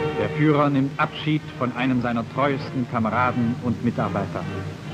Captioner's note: speaking German